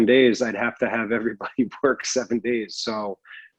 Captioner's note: chuckles